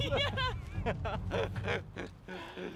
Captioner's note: laughing